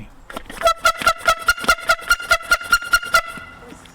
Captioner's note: horn